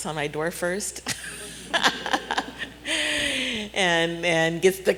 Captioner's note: laughs